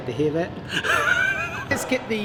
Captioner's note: mechanic wheezes